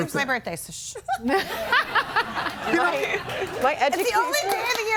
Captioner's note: everybody laughing